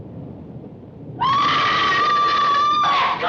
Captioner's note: screams